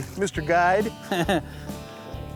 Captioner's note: laughs